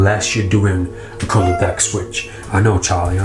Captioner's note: cat meows